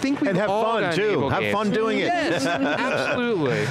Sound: laughs

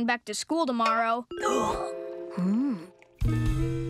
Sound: gasping

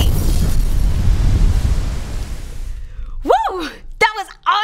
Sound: whooshing

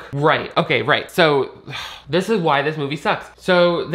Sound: sighs

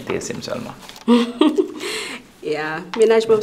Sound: laughter

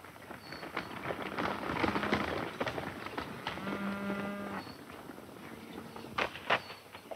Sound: running hoof beats; cows mooing

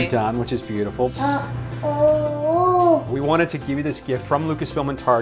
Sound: baby coos

